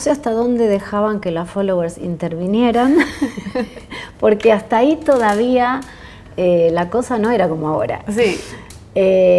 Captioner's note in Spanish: risas